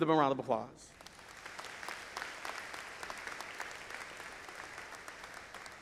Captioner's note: audience applauding